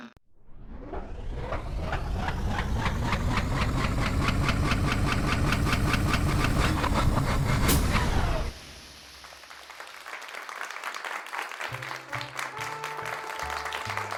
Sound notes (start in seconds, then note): 0.4 machine whirrs to life; 6.1 machine breaks down; 8.8 applause